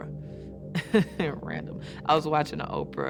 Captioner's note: chuckling